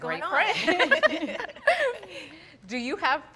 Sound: all laughing

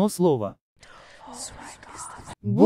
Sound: creepy whispering

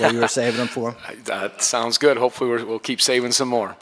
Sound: laughs

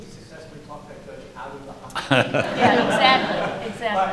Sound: laughter

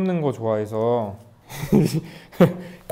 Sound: hehehe

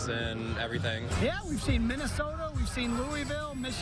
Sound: sound of tv

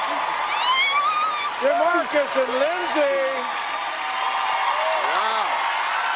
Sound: cheers and applause

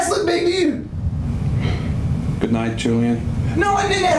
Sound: sighs

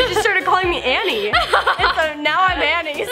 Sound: laughter

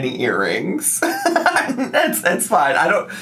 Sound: laughs

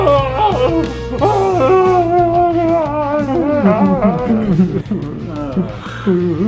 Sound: muffled screams

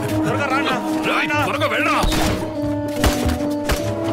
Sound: gunshot

